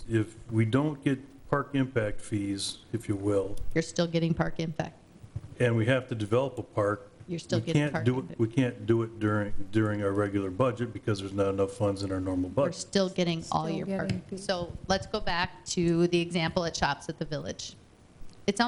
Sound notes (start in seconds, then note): none